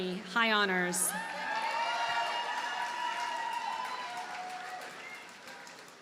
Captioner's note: audience cheers and applauds